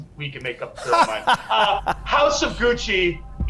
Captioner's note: laughs